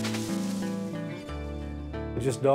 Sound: chainsaw buzzing

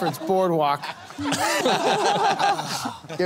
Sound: laughter

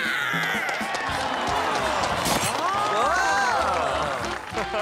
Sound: grunting; cheering, applauding

